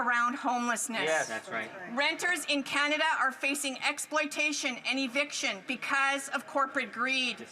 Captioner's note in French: voix de l'interprète